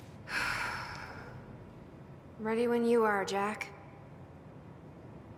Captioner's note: sighs